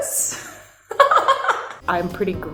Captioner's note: laughs